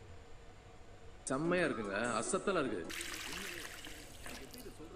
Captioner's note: soap opera being tuned into